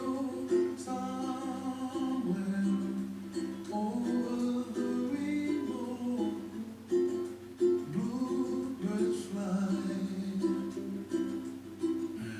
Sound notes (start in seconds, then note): none